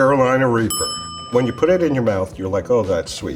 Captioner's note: bell dings